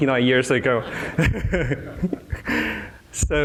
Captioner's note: laughter